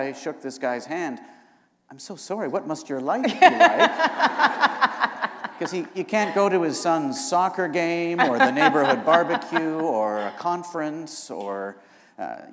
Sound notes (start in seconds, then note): 3.2 laughter